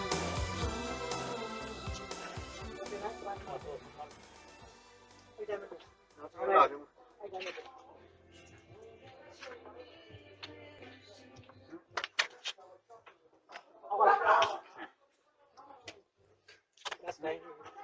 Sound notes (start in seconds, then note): 6.4 Ella barking; 6.4 indistinct chatter in Burmese and English